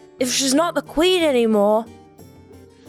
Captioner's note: none